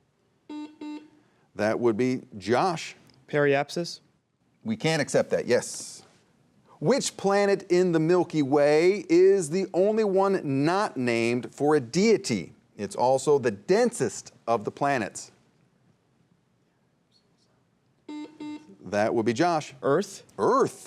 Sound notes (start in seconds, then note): 0.4 buzzer buzzing; 16.9 students whispering; 18.0 buzzer buzzing